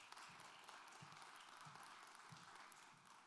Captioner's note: applause